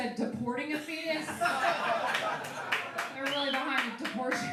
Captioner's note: laughing